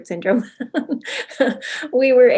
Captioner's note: giggling